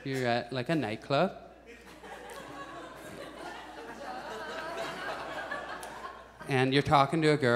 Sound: audience chuckles

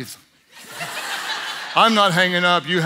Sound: audience laughs

